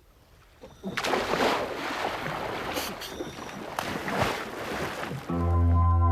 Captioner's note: splash